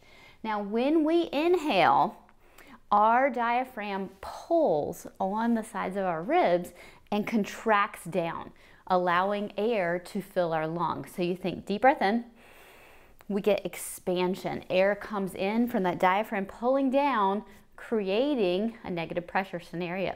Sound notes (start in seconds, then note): 12.4 inhales